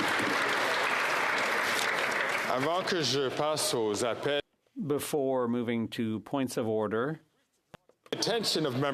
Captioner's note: some Applause